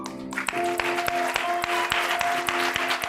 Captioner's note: applause